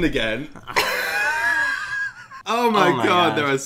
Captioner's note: laughs